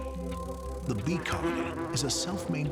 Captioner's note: bee buzzing